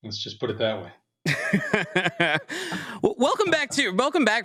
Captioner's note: laughs